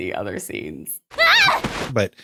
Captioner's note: screams